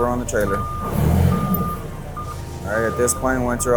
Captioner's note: lift engine roars